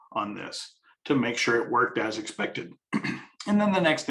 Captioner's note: coughs